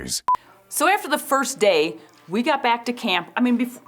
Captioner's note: soft upbeat music plays; test tone beeps once